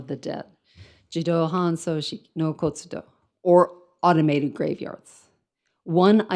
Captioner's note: speaks in foreign language